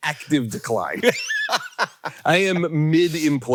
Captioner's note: Hank laughing